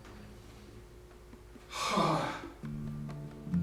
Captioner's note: sighs heavily; light instrumental music